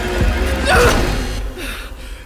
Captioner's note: yelps